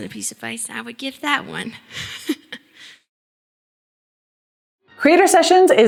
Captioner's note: chuckling